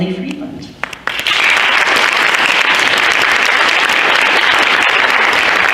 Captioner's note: audience applauds